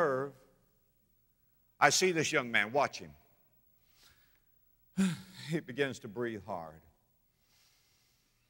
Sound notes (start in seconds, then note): 3.5 deep breath